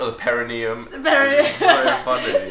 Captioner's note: laughs